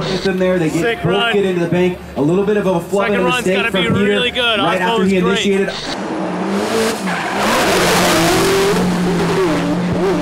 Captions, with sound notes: - Sick run, second run's gotta be really good. Aasbo is great. (engines revving)